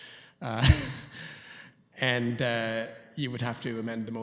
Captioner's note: chuckles